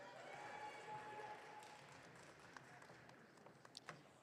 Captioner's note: audience cheering